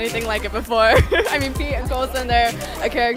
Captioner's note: laughing